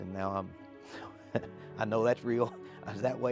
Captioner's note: chuckles